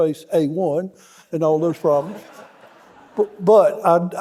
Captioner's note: audience laughing